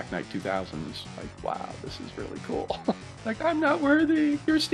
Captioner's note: chuckles